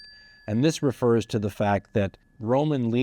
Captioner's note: bell dings